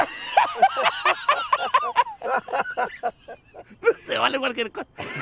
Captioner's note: all three laugh hysterically